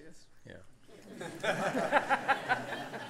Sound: laughter

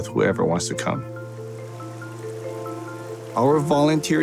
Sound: water rushing

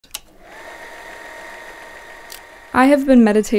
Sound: film projector whirring

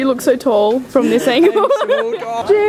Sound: laughs

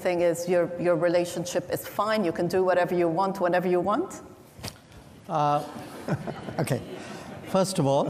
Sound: laughter

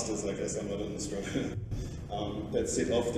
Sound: laughter

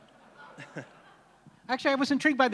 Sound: laughs

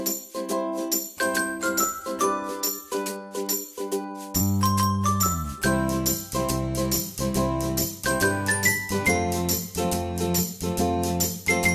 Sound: brand chimes

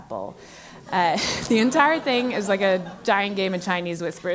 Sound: laugh

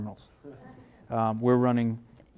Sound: laughing

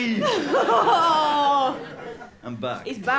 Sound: laughter

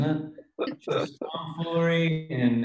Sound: laughs

